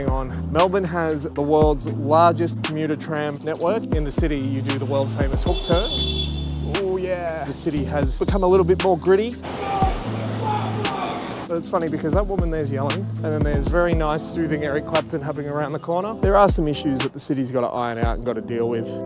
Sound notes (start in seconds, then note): 5.4 horn beep; 10.1 screaming expletives